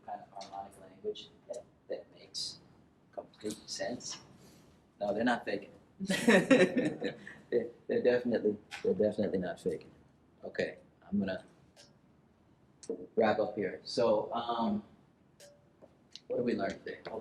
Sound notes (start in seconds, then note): 6.0 laughter